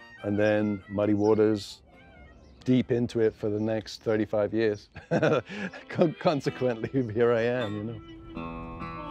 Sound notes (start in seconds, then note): 4.9 laughing